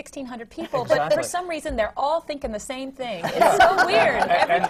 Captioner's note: laughter